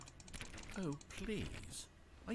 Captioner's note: click click click click click